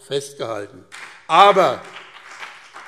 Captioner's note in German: Beifall BÜNDNIS 90/DIE GRÜNEN